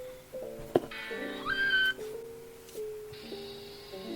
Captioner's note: screams from the video lol